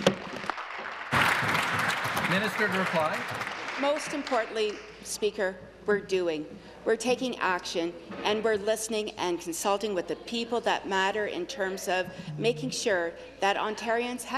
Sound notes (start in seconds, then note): 3.7 applause